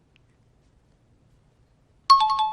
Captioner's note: dinging